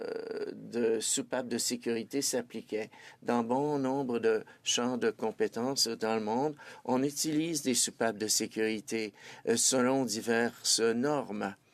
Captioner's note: speaking French